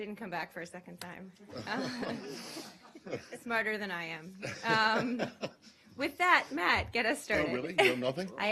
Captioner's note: laughter